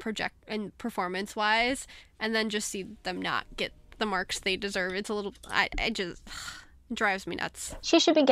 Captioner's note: sighs